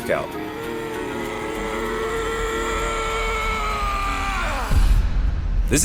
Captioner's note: groaning; screaming